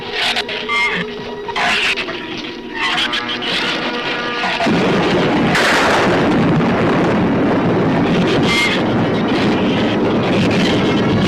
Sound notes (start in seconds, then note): 3.3 thunder claps; 8.2 shrews screech